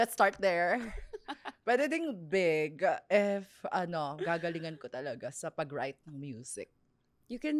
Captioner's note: laughs